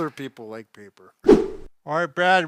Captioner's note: whip sound